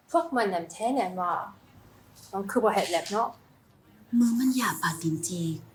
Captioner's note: aesthetician speaking foreign language; aesthetician 2 speaking foreign language